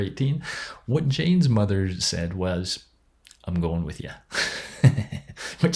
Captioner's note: laughs